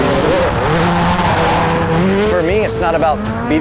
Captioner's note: car engine revving